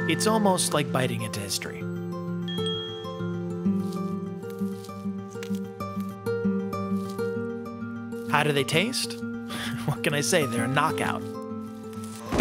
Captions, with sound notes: It's almost like biting into history. (uplifting music) (crunching) (uplifting music) How do they taste? What can I say, they're a knockout.